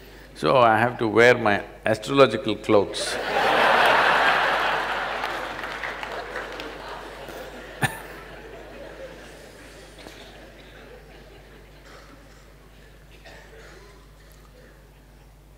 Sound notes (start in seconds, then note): 3.1 laughter/Applause